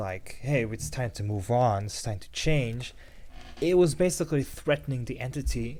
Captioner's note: chair creak